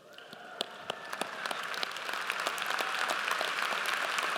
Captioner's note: audience applauds